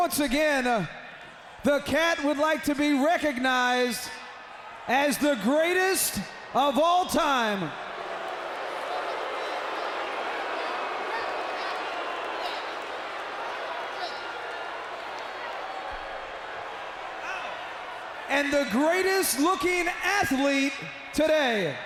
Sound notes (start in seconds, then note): 7.8 audience booing